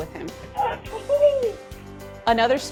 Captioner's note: yelling happily